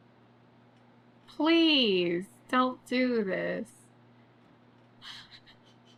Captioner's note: laughs